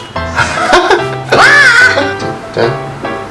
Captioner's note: laughing out loud; screaming